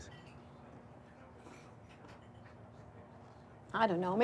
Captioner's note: people chattering